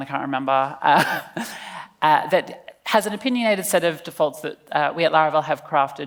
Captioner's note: laughs